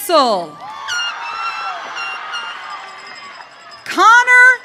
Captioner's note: audience cheering